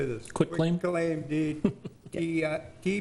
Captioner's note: laughs